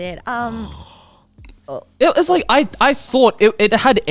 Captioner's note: gasps